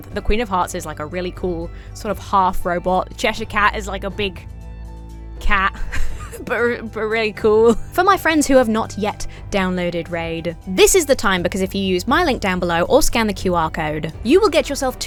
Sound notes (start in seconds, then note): 5.8 wheezes